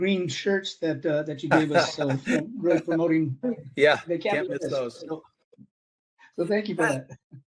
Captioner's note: laughing